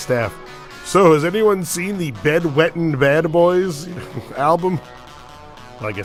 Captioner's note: mocking serious tone